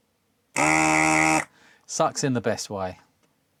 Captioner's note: buzzer